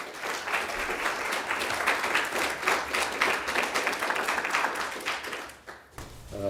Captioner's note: applause